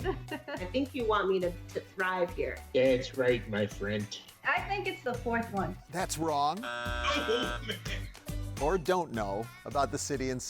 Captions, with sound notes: - I think you want me to thrive here. - That's right, my friendt! - I think it's the fourth one. - That's wrong. (buzzer sounds) - Oh, man! - Or don't know about the city and suburbs.